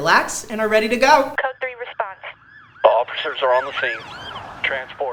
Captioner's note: police Radio; sirens; police radio